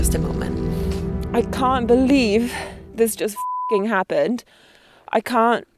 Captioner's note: beep